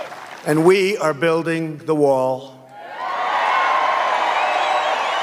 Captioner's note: cheers and applause